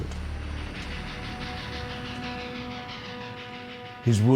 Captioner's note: train chugging; dramatic music